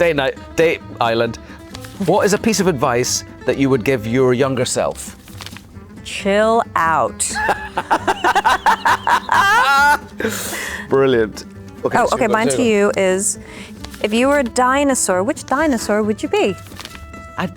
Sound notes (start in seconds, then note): 7.2 Ewan and Anne laughing